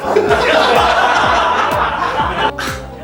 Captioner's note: laughs